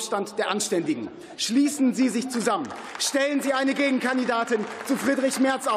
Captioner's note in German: Beifall